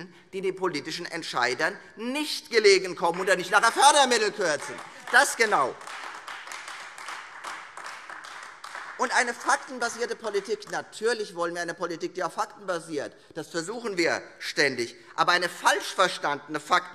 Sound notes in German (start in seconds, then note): 6.1 Beifall Freie Demokraten und AfD